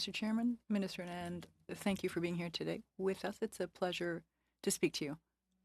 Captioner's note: speaking French